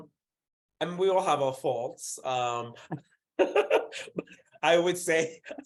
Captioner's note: laughs